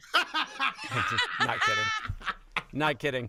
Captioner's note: both laughing